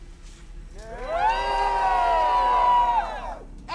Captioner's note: crowd cheers